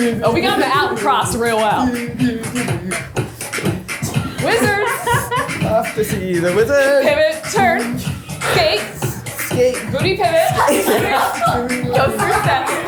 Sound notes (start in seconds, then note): 10.5 everyone laughs